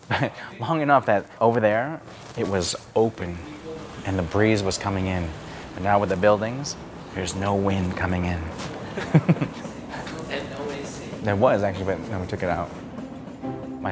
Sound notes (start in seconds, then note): 8.5 laughs